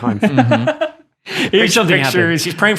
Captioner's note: laughing